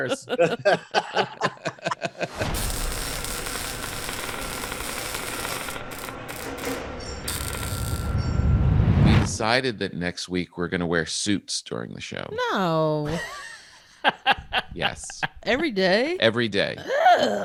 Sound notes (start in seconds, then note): 0.0 laughing; 2.3 welding torch sizzling; 13.9 laughing